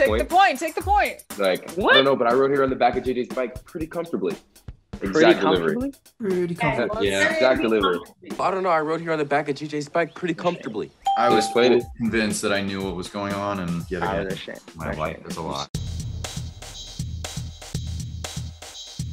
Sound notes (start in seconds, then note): 11.0 ding; 15.7 upbeat interlude